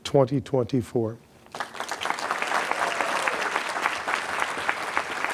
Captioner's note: applause